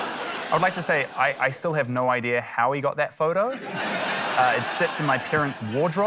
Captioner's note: laughter; laughter